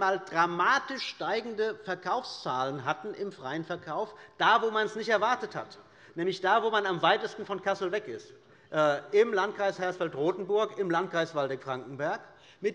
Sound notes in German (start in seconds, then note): none